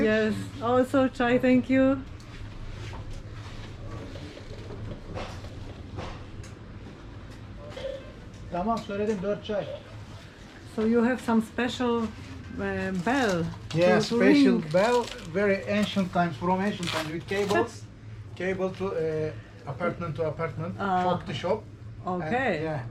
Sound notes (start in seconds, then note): 8.2 orders 4 chai in Turkish